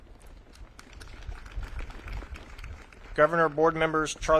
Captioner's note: audience claps